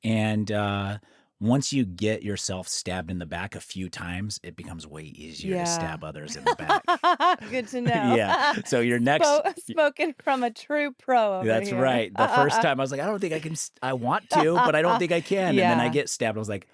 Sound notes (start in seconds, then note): 5.3 laughs